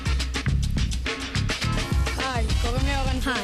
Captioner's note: speaking foreign language